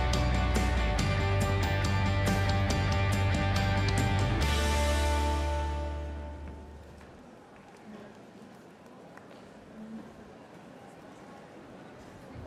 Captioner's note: applause